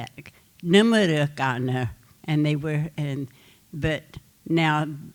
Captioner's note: speaking Comanche